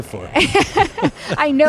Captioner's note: laughter